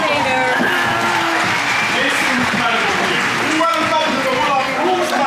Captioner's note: audience clapping